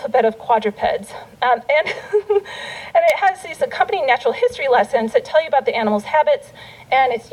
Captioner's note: laughter